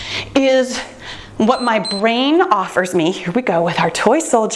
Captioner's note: timer beeps